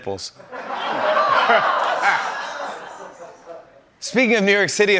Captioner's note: laughter